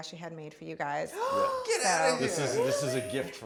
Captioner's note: gasps